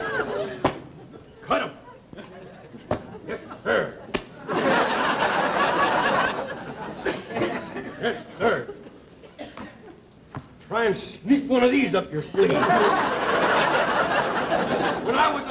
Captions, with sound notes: There. [audience laughter] Yes, sir. Try and sneak one of these up your sleeve. [audience laughter] When I was a small puny boy, Puny,